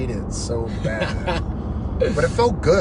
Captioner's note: laughs